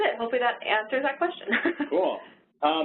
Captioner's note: laughs